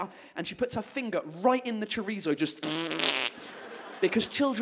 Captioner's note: blows raspberry